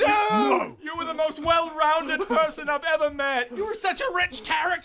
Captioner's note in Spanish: llora